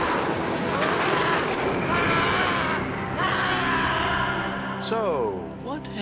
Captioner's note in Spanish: trueno estrellándose